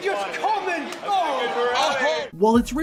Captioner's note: crowd cheering